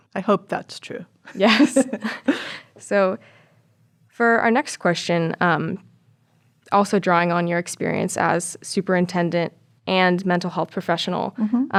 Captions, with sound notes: I hope that's true. (laughs) - Yes. (chuckles) So, for our next question, also drawing on your experience as superintendent and mental health professional,